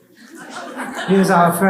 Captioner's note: laughs